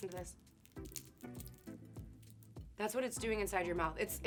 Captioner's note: spanakopita crunching